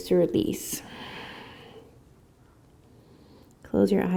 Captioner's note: breathing